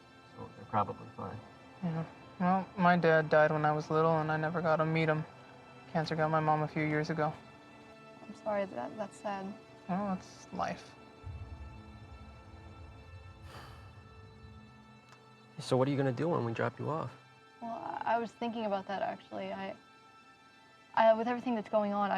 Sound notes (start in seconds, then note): 11.8 sad music; 12.1 exhales